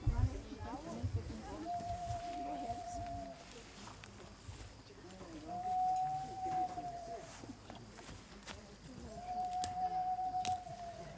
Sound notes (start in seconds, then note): 1.4 loon call; 5.4 loon call; 9.1 loon call